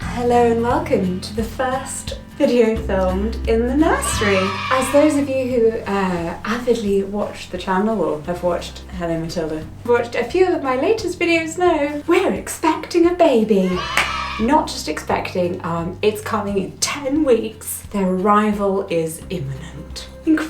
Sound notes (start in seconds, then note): 3.9 children cheering; 13.6 children cheering; 13.8 claps